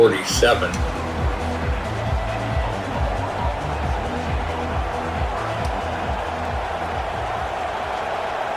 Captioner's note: crowd Noises